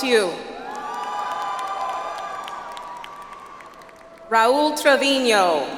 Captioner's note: audience applauds